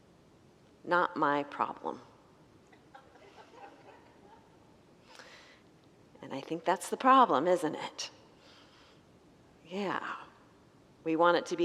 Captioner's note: congregants laugh